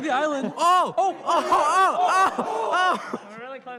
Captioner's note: players exclaiming